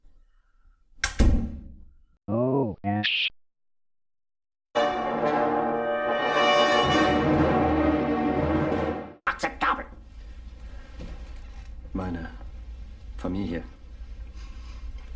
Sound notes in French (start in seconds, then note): 1.0 la porte se ferme; 9.2 Hitler parle allemand; 12.7 parlant un anglais simple